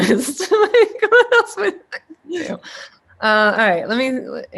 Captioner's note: laughter drowns out speaker